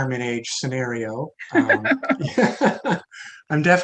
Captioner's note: laughs